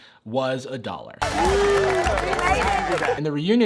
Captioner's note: applause